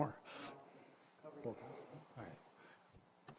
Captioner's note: indistinct chatters